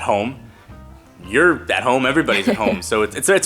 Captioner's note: laughs